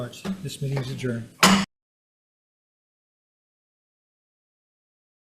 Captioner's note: gavel thuds